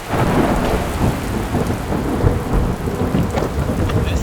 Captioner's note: wind blowing